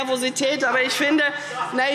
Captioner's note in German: Lachen Freie Demokraten